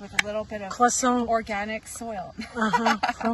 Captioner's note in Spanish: risas